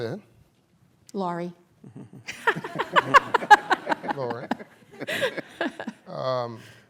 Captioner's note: laughter